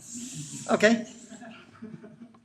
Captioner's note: hissing and chuckling